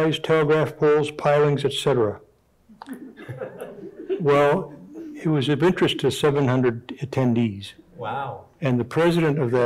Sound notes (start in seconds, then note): 2.8 audience members chuckling